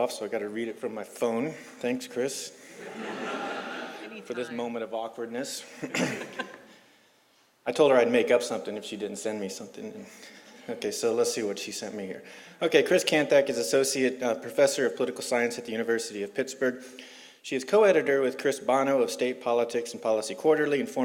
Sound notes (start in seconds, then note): 2.8 laugh; 5.7 laugh; 10.2 laugh